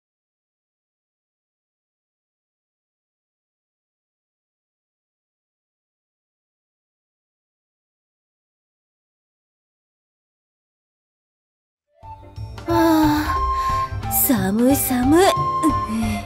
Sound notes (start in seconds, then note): 12.7 sigh